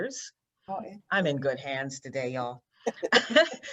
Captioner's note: laughs